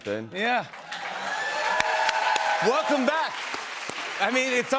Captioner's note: cheers and applause